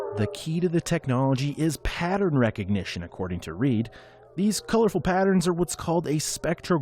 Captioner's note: wolves howling